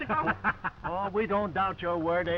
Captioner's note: Tom laughing